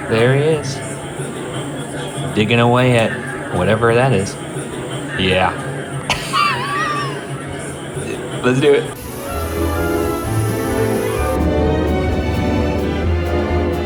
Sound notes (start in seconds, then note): 6.1 chuckles; 8.9 bright music